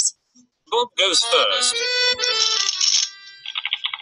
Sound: voiceover

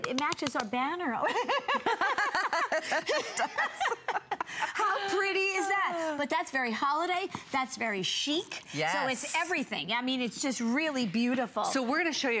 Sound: laughter; laughter

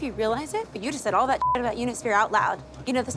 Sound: beeps

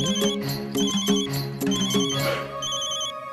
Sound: phone ringing

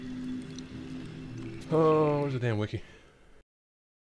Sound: sigh

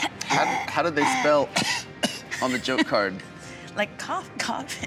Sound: coughs

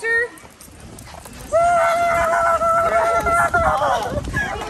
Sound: mom yelling playfully

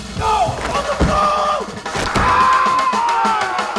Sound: screams

